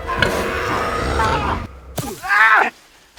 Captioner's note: scream